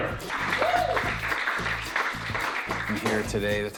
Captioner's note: cheers, applause